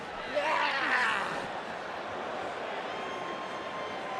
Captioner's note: Finn groaning